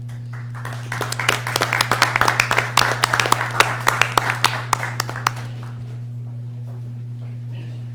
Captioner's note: applause